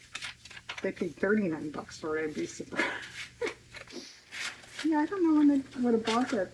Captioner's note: laughs